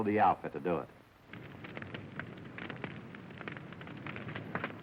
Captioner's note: fire crackling